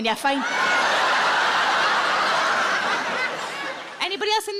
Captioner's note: audience laughs